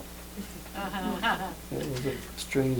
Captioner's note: laughter